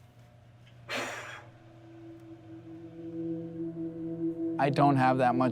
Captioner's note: blowing; soft thoughtful music